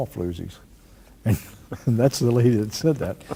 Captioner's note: chuckles